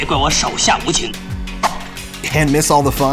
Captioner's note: swish